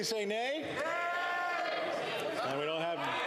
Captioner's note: some Applause